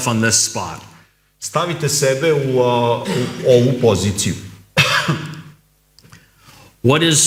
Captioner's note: coughs